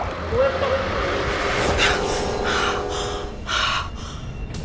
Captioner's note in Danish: Et tog horn hyler